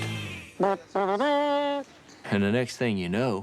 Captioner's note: imitates horn fanfare